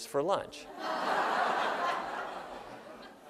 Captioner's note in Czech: Smích